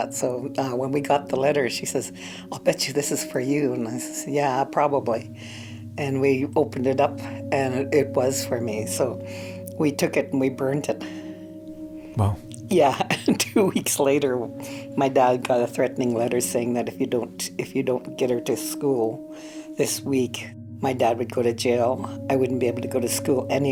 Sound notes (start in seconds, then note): 13.1 laughs